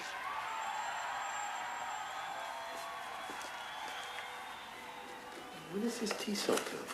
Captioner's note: crowd cheering